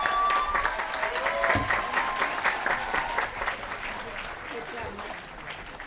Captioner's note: applause & Cheering